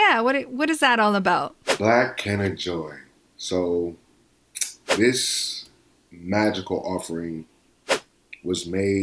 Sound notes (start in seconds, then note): 1.6 whoosh; 4.8 whoosh